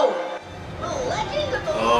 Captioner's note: movie playing in background